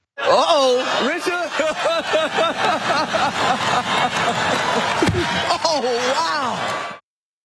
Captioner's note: laugh